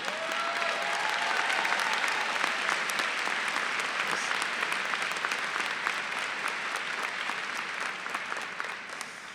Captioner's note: applause